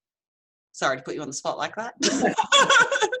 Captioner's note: laughing